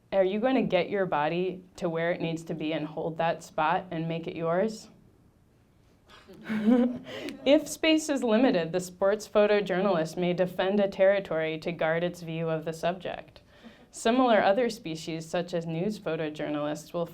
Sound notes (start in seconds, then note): 6.2 laughing; 6.4 audience laughing